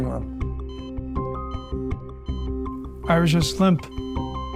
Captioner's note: heart monitor beeping; heart monitor flatlining